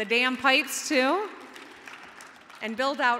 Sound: audience clapping

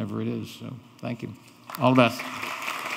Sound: audience applauding

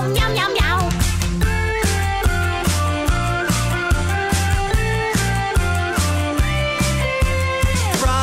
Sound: whistling

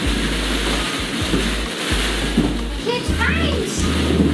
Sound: balls swishing around

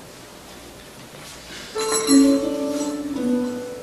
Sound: door chimes

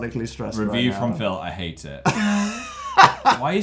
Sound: wheeze

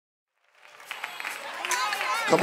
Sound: clapping

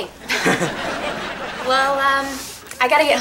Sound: chuckles

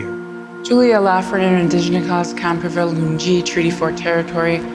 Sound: speaks in michif

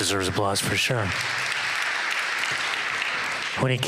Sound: applause

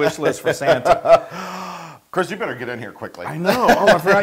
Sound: laugh

